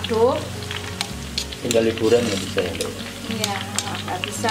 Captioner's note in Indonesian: kameramen berbicara